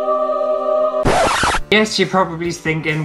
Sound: heavenly Music; record Scratch

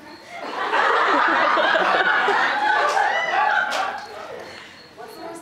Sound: audience laughter

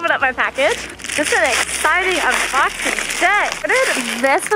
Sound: opening package tear

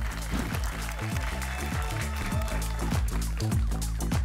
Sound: applause and cheering cont

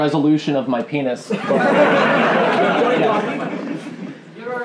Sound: laughing

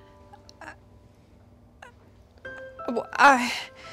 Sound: Alex stammering

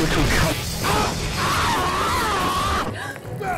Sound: screams in rage

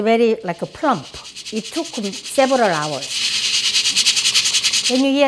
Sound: steam chatters

